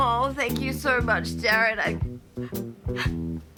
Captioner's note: blows nose